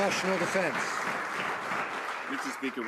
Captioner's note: some Applause